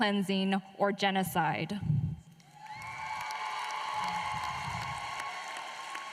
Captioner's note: applause